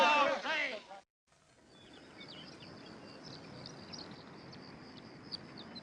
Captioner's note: birds singing